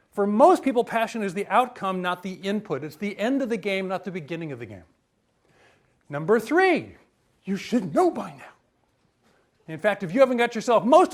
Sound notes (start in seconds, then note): none